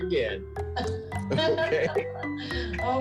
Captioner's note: chuckles